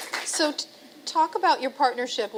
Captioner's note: applause